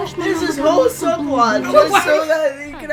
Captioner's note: laughs